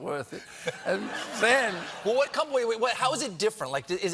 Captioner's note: laughter